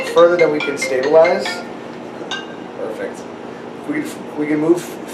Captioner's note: phone rings off camera